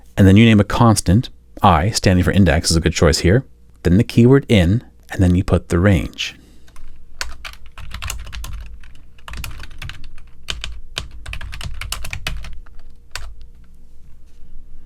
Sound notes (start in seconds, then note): 7.0 keyboard clacking